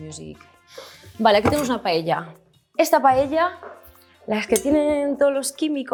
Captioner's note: speaks Spanish